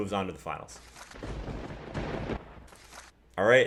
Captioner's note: paper ripping; lightening and thunder; paper ripping